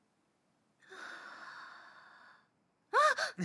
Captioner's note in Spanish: Mae inhala; Mae exhala